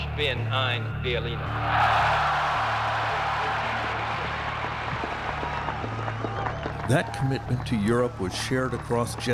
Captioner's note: speaking alternate language; cheers and Applause